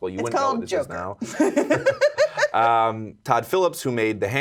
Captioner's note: laughing